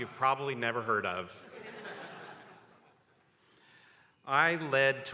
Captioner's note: attendees laughing